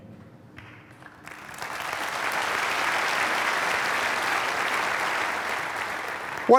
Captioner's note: applause